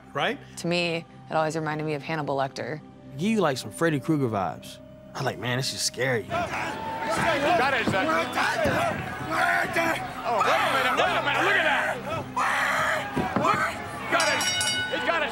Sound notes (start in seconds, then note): 6.2 yelling maniacally; 12.1 Mankind shrieking; 14.0 bell rings